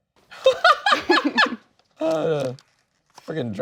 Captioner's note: laughing